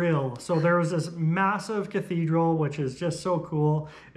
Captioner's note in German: lacht